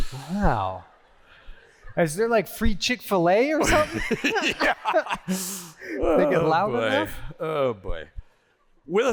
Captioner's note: laughter